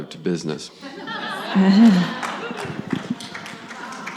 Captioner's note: audience laughs